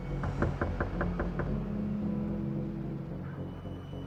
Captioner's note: door knocking; foreboding music